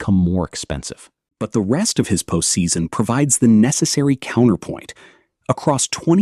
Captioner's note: thoughtful